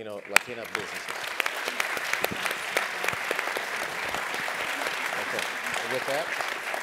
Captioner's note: applause